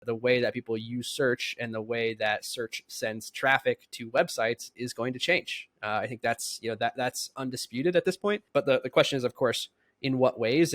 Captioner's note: speaking